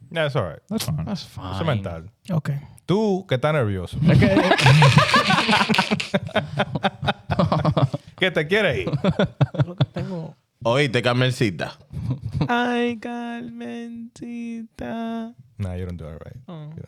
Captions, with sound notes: Yeah, that's all right. That's fine. Cemental. Okay. Two get down, everybody. (Laughing) Get the get eight. (Speaking In Foreign Language) I got a man to eat Nah, you don't do it right.